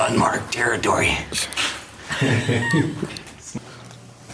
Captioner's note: laughter